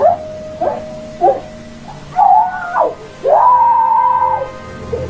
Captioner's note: woman screaming